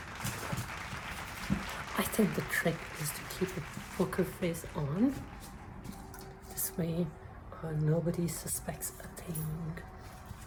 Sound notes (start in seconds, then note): 0.0 audience claps in background